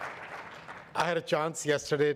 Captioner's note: audience applauds